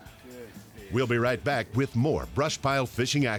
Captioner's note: voiceover